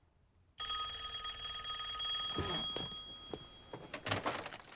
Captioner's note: rings